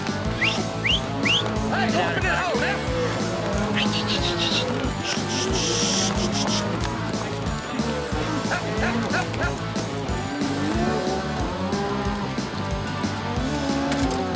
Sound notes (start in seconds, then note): 0.2 whistling, shouting; 9.4 cowboys shouting